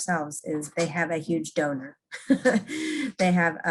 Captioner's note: laughing